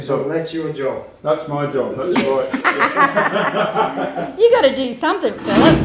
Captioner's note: much laughing